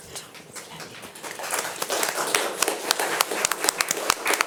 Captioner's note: audience applauding